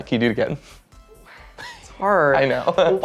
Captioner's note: sigh